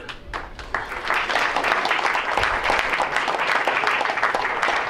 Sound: crowd applauds

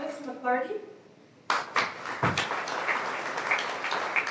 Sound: applause

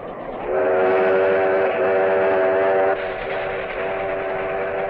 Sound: train engine chugging

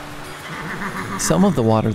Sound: horse neighing

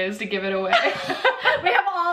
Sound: laughing; laughs

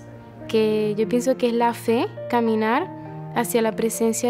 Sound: speaks in Spanish

